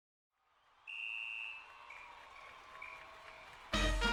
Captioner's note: whistle blowing; triumphant music